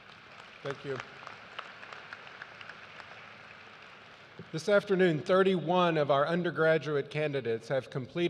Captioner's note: applause